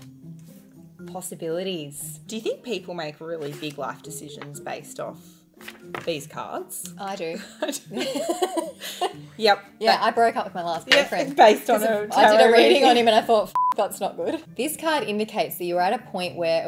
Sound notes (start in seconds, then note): 13.5 beep